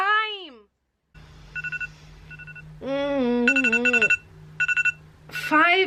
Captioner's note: phone alarm clock rings